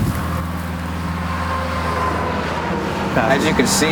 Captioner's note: traffic humming